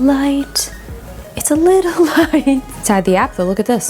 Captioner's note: laughs